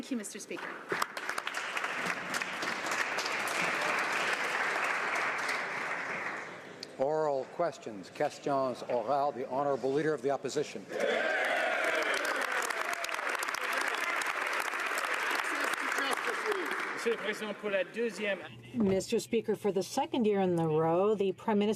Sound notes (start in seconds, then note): 7.2 some Applause; 11.0 speaking French; 14.2 some Applause